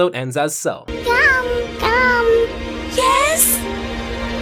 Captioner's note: baby babbles